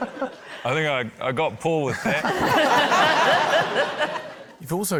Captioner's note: laughter